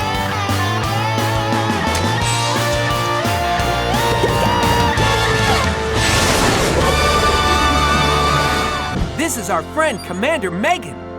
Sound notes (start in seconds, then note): none